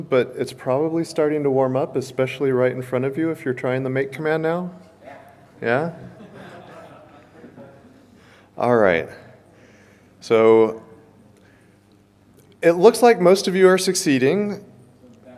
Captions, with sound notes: But it's probably starting to warm up, especially right in front of you if you're trying the make command now. - Yeah! - Yeah? (audience chuckles) All right. It looks like most of you are succeeding.